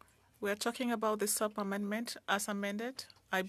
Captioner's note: speaking French